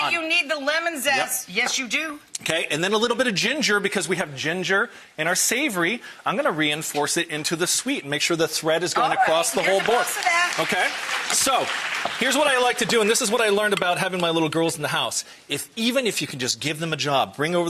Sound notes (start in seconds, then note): 11.0 audience applauds